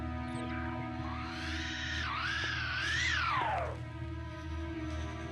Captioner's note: squeals